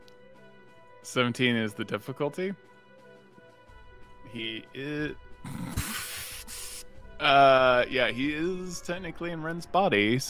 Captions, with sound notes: - 17 is the difficulty? He is (laughs), yeah, he is technically in Rend's body